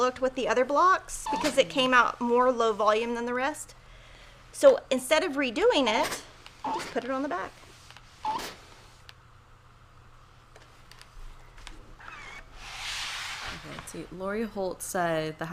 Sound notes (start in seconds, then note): 6.0 iron squeaks and clangs; 12.2 board scrapes on table